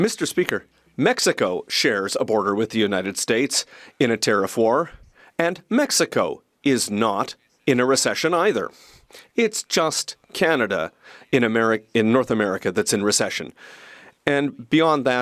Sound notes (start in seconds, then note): 3.9 speaking French